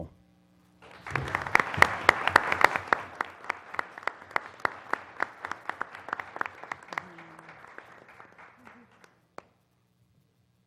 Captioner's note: applause